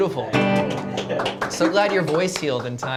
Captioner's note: applause